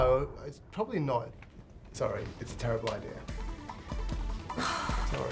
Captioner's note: sighs